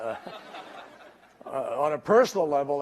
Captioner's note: laughter